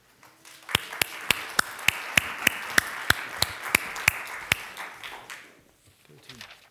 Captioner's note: applause